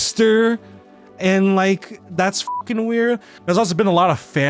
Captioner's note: beeps